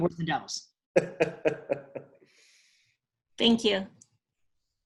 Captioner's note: laughs